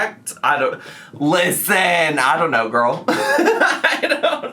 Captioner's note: laughs